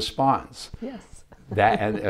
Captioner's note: laughs